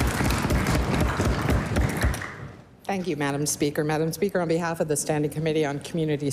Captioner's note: applause